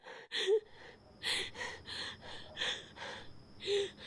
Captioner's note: heavy breathing